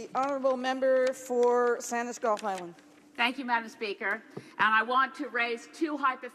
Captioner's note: speaking in French